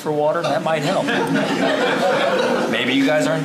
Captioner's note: crowd Laughing